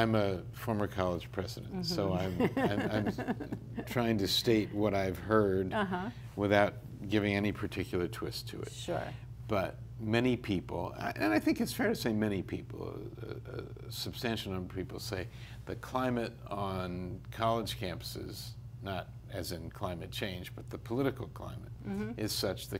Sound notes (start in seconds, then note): 1.8 laughs